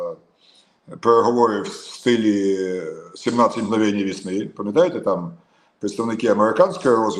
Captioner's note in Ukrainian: сопіння